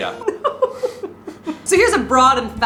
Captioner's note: giggling